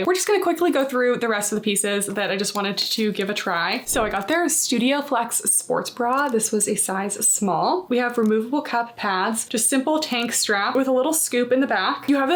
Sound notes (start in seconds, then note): 3.8 text whooshing